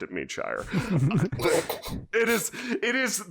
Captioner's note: quiet chuckles